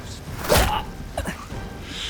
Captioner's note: bam